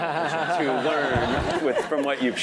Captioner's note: laugh